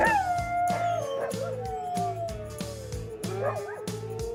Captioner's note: howling